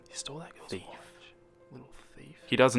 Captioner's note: whispers